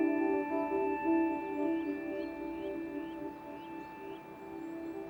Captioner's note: birds chirping